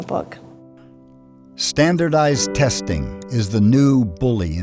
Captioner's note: voiceover